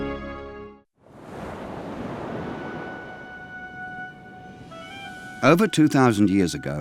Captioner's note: waves crashing; serene music